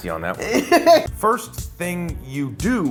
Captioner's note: laughing